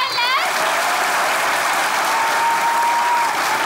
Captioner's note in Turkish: Alkış sesleri